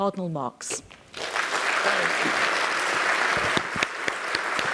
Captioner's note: applause